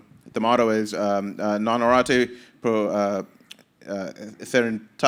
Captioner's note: speaking Maori language